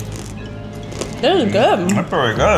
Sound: candy crunches

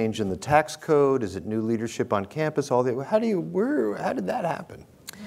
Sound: stutters

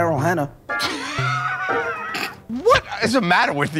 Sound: laughter

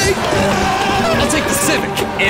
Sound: Honda Boy screaming and crowd talking

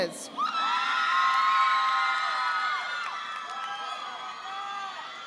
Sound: audience applauding

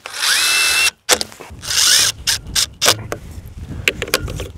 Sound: drill buzzing

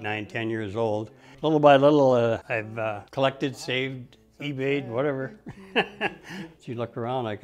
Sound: laughs

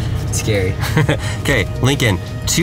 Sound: laughing

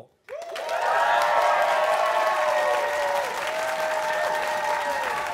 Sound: cheers and applause

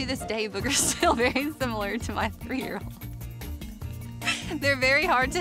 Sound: laughing

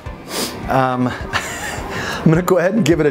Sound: laughs

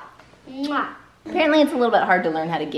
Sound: smooching

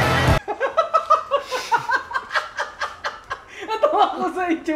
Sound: laughs

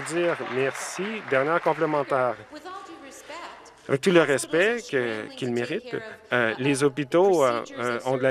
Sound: some Applause

